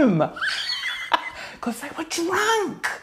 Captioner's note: laughing loudly